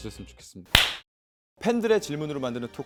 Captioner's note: clap